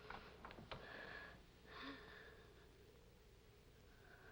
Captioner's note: Helen struggles to breathe